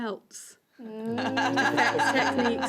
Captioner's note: laughter